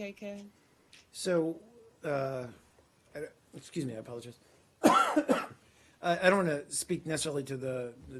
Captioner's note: coughing